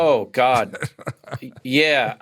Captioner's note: laughs